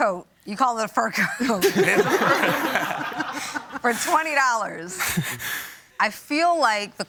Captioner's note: laughter